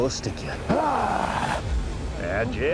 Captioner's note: grunts